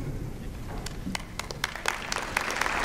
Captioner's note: applause